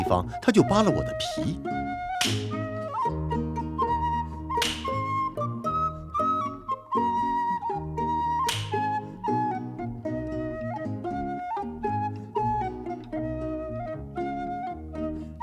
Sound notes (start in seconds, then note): 1.8 sound of a whip